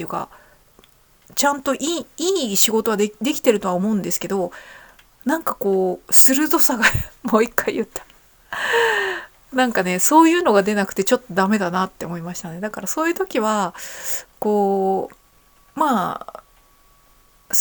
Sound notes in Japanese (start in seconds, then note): 6.8 笑い; 8.5 息をのむ音